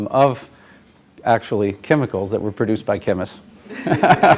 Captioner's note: laughter